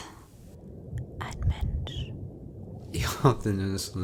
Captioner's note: whispered